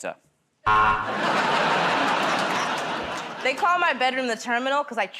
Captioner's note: buzzer